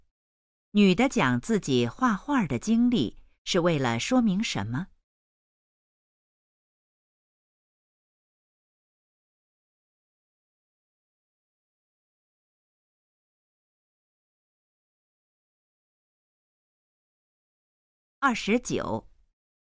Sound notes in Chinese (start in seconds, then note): 4.9 空白_音频